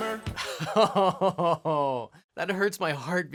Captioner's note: groans